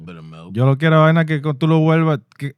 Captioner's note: speaking Spanish